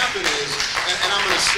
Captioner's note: applause